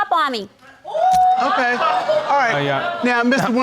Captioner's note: audience exclaiming